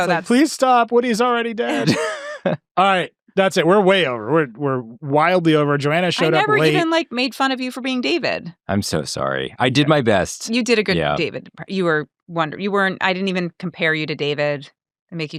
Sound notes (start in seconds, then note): 1.5 chuckles